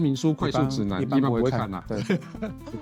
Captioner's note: laughs